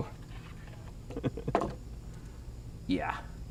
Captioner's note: chuckling